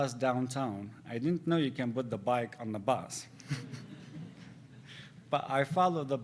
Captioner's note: laughs